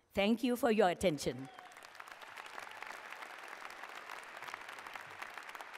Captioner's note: applause